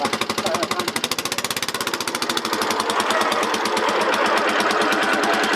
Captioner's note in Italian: rumore di motore che accelera